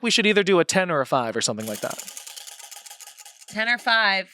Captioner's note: wheel rattles